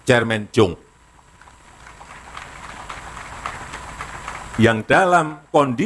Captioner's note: applause